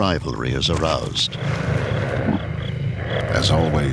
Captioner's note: animal growls